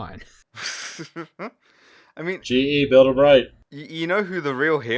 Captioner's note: laughter